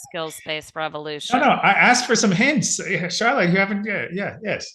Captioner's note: laughing